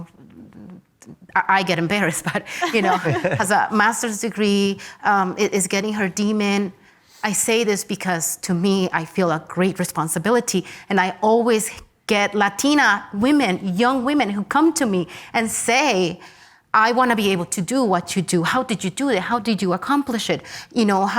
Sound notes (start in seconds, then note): 2.3 laughs